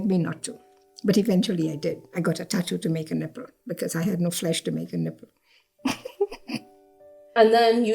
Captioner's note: laughs